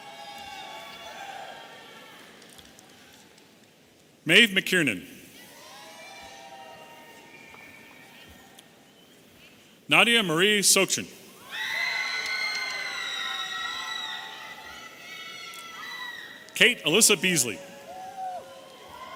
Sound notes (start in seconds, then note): 11.4 audience cheering